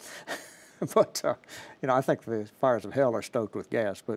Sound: laughs

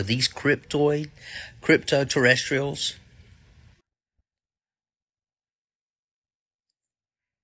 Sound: blank Audio

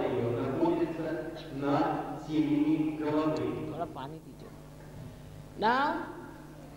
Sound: HINDI - Thoda paani dijiye

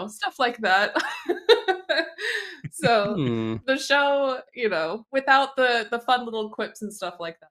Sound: laughs

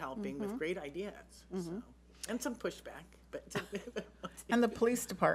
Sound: laughs

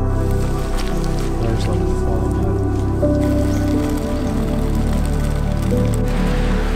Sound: peaceful music; pan sizzling

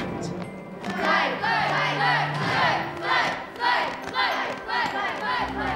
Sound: all Chanting

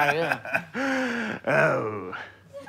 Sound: chuckles

